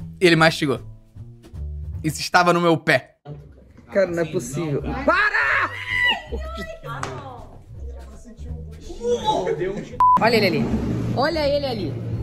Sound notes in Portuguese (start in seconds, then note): 8.9 alguém faz som de enjoo; 10.0 som de bipe